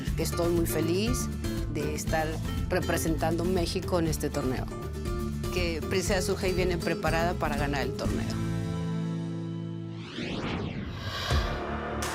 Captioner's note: speaking spanish